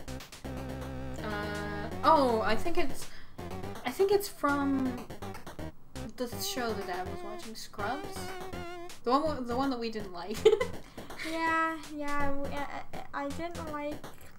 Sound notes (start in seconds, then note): 10.4 laughs